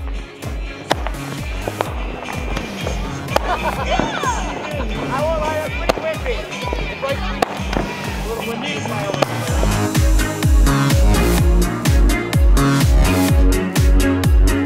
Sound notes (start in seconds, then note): 1.0 everyone cheering; 1.0 fireworks bursting; 9.7 upbeat music continues